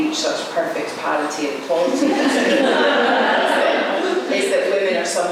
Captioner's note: laughter